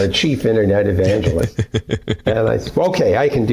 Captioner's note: laughter